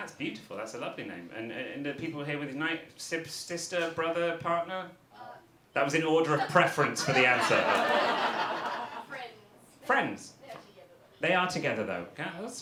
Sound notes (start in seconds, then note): 8.0 audience laughter